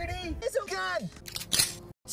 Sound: gun cocking

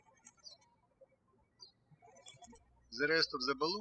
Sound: birds chirping

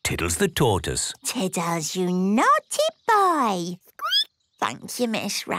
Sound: squeaking

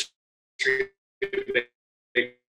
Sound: audio distorts

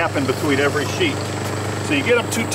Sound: machine rumbling

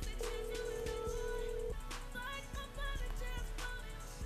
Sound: phone ringing

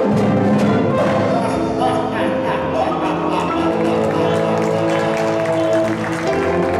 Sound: evil laughter

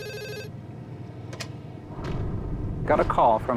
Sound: receiver clicking

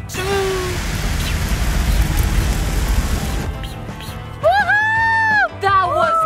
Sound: fire shooting

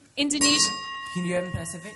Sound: bell

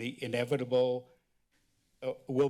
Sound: pause

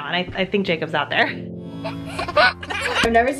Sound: gentle music; giggles

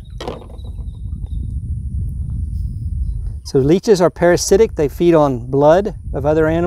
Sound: wind

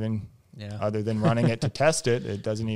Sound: laughs

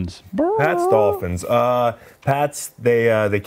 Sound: squawks

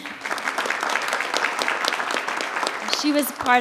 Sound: audience applauds

